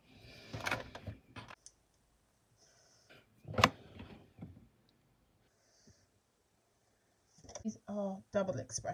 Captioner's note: breathing